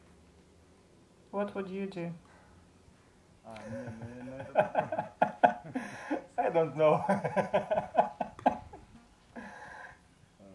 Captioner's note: laughs